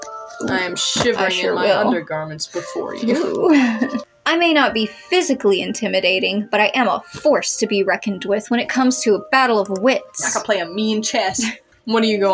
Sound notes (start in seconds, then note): 11.3 chuckle